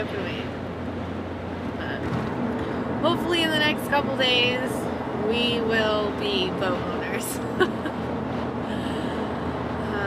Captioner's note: laughs